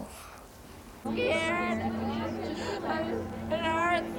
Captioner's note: wailing in pain